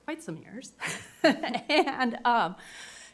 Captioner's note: laughs